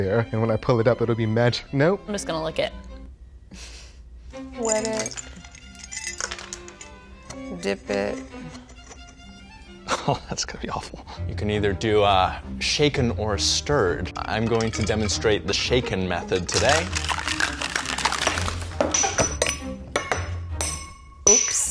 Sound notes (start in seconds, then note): 3.5 woman chuckles; 4.6 ice clinking; 6.1 quirky orchestral music; 16.3 ice clinking; 18.7 shaker cap clinking